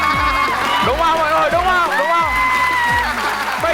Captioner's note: laughing